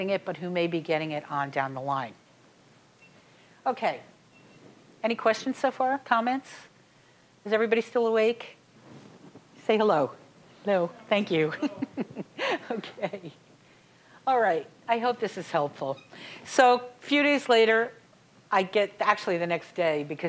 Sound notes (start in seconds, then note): 11.5 chuckling